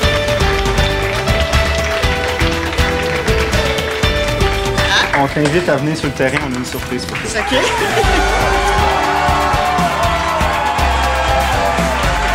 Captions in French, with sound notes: On t'invite à venir sur le terrain, on a une surprise pour toi. - OK. (acclamations)